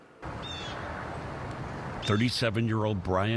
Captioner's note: birds chirping